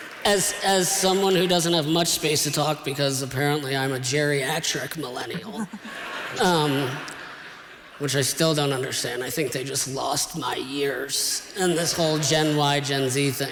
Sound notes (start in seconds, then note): 5.2 laughter